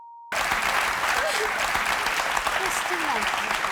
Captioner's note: crowd applauds; sobs